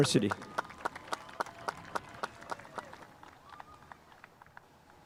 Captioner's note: spectators applauding